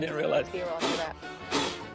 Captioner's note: blows air